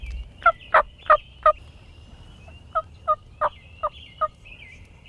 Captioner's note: hunter using turkey call